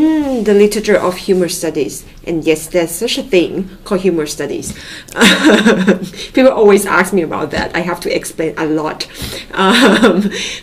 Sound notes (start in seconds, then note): 4.9 laughing